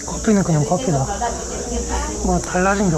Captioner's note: laughing